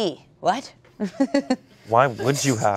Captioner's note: laughs